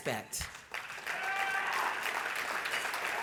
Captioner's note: cheering